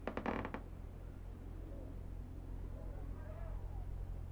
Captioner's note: house creaking